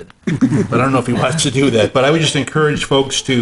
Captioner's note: chuckling